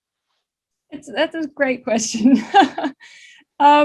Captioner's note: laughs